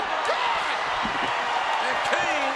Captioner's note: body thuds